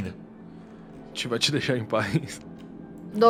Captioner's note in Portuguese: risadinha